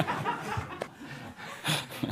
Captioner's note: laughter